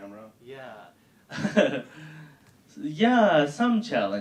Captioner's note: laughing